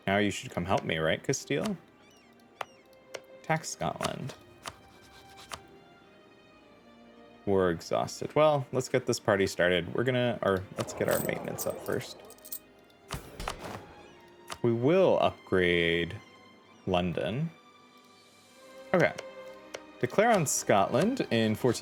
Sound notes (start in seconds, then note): 4.0 typing